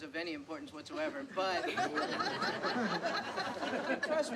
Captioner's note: laughter